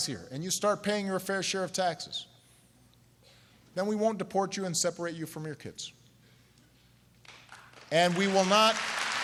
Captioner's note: applause